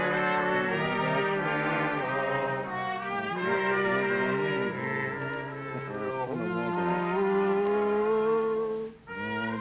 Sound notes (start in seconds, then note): 0.2 whispering; 1.8 Groucho humming to song; 5.5 whispering; 9.0 Groucho humming to song